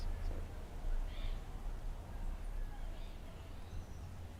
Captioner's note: birds chirping